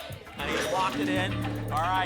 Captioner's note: lock sound